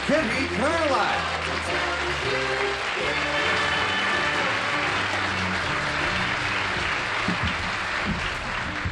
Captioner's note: applause